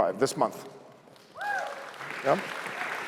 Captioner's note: applause